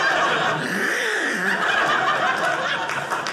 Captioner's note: gagging; audience laughing